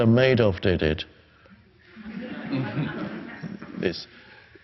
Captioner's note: crowd laughing